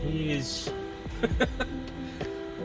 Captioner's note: laughs